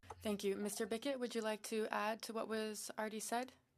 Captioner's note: speaking in French